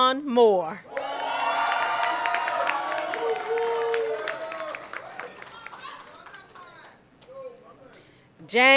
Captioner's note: cheering and Applause